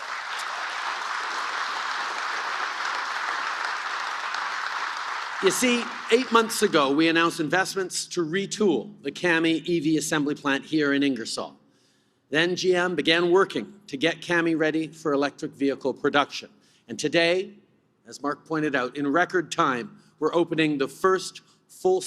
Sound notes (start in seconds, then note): 5.7 applause